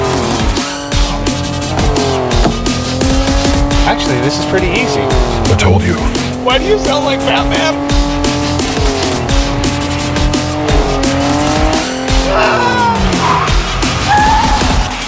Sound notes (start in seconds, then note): 10.9 engine roars; 12.1 screams; 13.2 tires screech